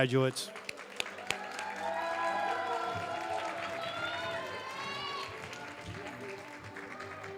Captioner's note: cheers, applause